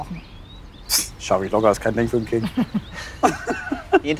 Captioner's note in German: lacht